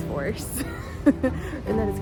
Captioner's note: giggles